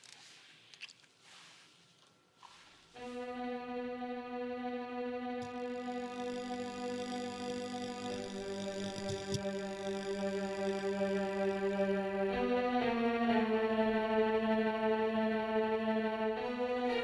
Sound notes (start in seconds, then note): 3.8 image zapping; 3.8 tense suspenseful music